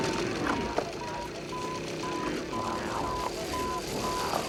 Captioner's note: beeping; beeping grows louder